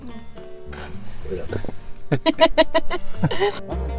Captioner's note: laughter